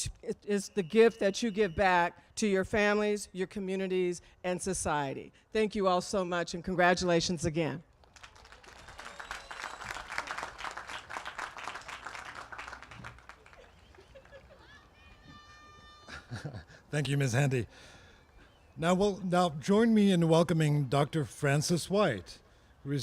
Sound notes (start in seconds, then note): 8.0 applause